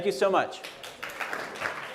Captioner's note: applause